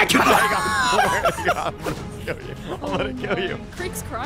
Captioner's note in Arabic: تضحك